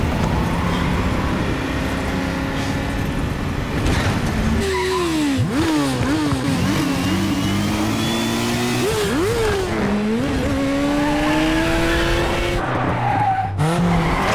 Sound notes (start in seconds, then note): 12.2 tires screeching